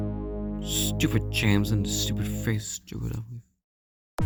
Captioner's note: Thomas grumbling